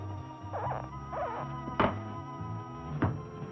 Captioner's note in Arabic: صرير